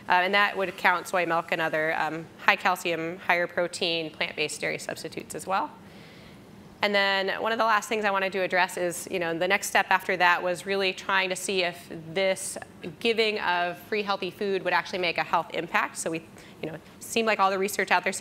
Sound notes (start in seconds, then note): none